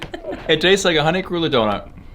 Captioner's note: woman laughing